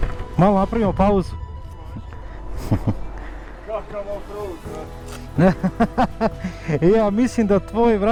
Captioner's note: laughter